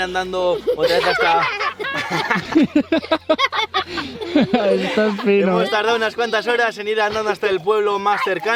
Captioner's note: Risas